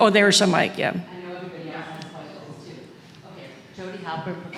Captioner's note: audience member speaks from a distance